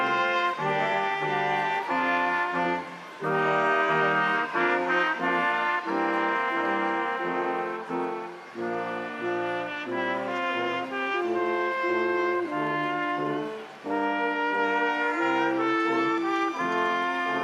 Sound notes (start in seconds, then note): 3.1 crowd applauding; 3.1 instrumental music continues